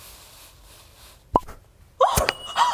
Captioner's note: pop!; ring hits ground